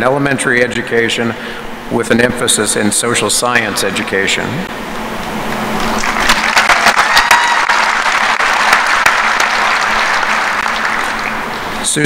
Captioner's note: applause